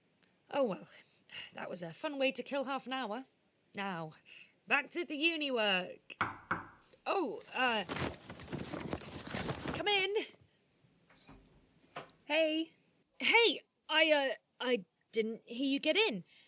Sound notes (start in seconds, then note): 6.2 knocking against wood; 7.4 papers rustling; 11.1 door squeaking